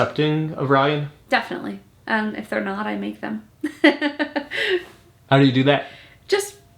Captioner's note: laughs